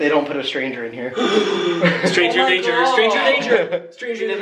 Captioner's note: gasping